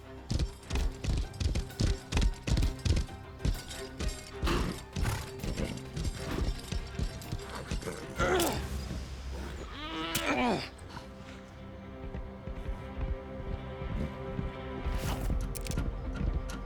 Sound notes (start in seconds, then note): 3.4 horse blusters; 8.2 pony bob grunts